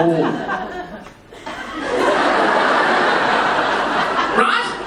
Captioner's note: audience laughing